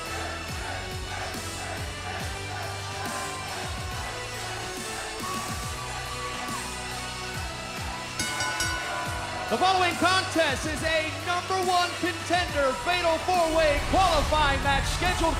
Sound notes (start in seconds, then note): 0.0 crowd cheering; 8.1 bell ringing